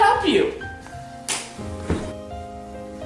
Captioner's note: slap